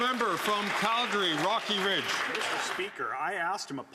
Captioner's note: some Applause